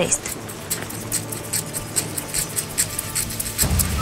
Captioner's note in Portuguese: som de chocalho indígena